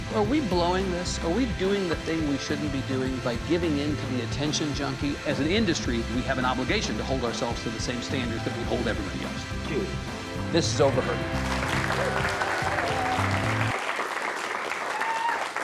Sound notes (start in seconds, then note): 10.8 audience applauds